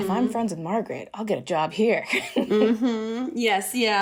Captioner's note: laughter